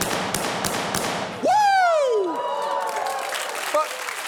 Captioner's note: audience cheers